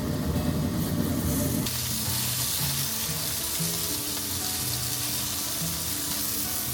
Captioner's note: sizzle